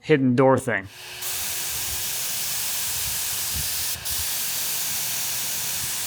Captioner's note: spray machine hissing